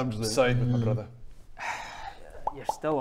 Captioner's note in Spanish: suspiro